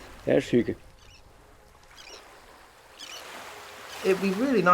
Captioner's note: birds calling; waves crashing